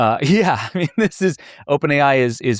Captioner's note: laughs